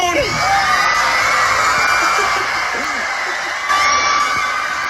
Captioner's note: audience cheering